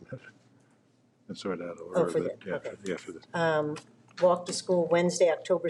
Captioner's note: both chattering